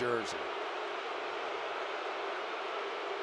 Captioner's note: booing